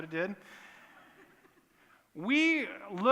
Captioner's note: laughter